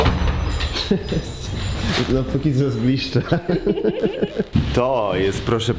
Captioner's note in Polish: śmiech